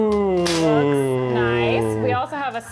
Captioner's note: pan clinking